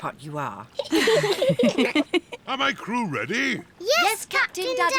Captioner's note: all giggle